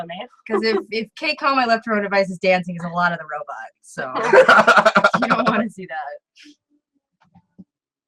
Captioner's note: laughs